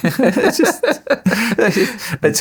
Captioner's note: laughing